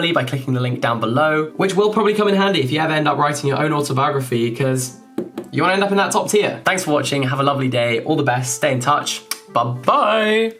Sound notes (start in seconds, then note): 5.0 finger tapping; 9.2 kissing